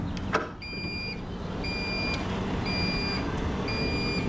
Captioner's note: beeping